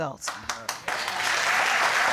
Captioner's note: audience applauding